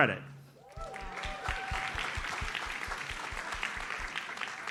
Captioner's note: audience applauds